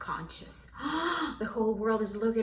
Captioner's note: deep breath intake